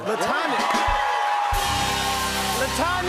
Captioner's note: cheers and applause